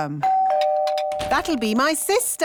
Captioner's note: doorbell rings